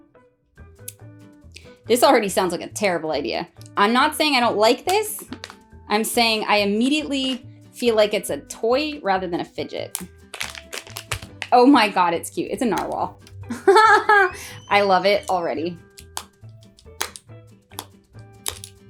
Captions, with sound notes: This already sounds like a terrible idea. I'm not saying I don't like this. I'm saying I immediately feel like it's a toy rather than a fidget. Oh my god it's cute! It's a narwhal. [laughing] I love it already!